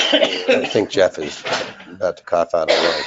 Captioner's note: coughing